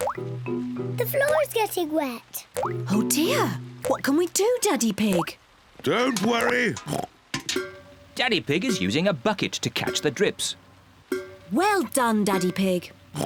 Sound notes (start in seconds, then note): 4.8 oinks; 10.6 oinks